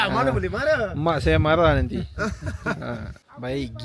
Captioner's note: laugh; laugh